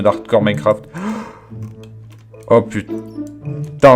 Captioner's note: gasp